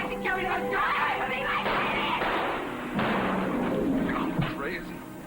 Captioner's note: gunfire